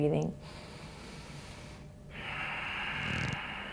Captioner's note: deep breath